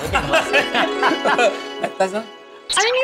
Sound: laughing

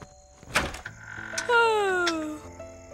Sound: yawns

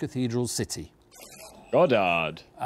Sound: buzzer buzzes

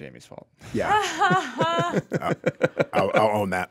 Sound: laugh

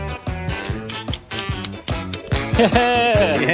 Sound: poles clicking

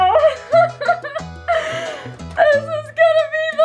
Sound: laughing

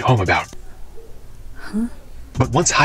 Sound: audible confusion

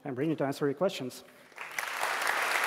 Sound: applause

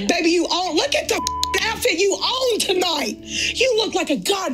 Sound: beep tone

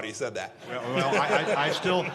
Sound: laughter

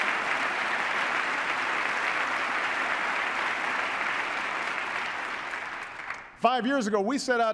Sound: applause

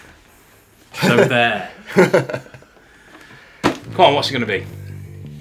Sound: laughing

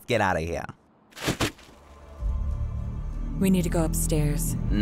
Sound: thud

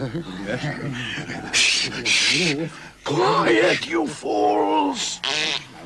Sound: shushing

